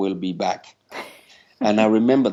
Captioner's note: chuckling